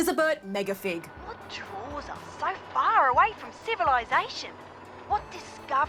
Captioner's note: ocker accent